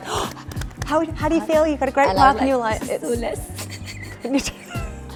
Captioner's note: laughs